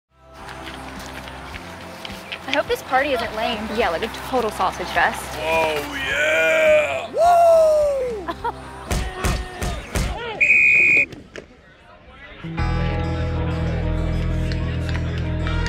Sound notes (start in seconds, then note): 0.3 steps; 7.8 laughs; 10.4 whistle